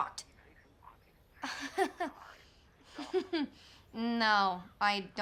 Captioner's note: june chuckling